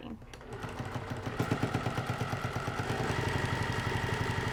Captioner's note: machine whirring